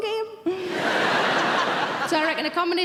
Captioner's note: audience laughing